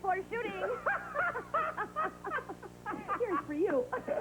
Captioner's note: Josh & Reva laugh